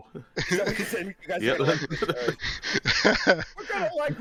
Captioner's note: laughter